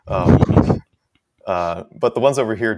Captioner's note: laughs